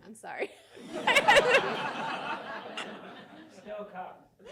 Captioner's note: all laughing